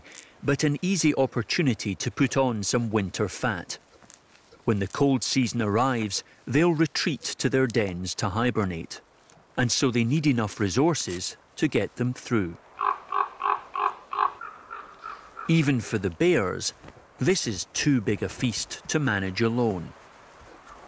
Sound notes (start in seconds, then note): 12.7 bird caws